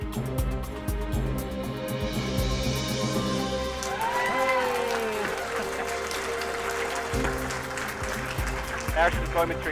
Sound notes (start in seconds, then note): 3.7 raucous cheering; 4.2 tense music